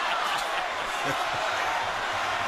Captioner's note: laughs